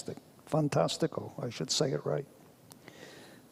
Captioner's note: speaks foreign language